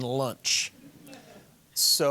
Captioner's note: audience chuckling